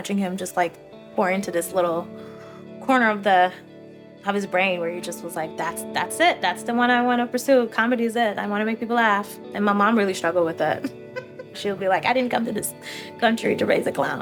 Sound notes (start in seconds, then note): 10.7 chuckles